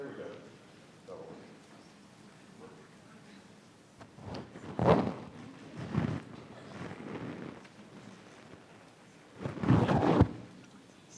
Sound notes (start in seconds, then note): 5.7 mic scratching